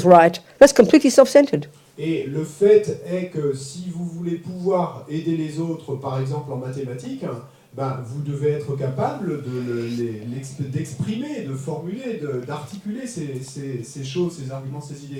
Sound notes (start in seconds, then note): 2.1 French